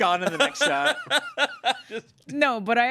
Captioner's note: everyone laughs